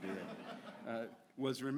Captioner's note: audience laughs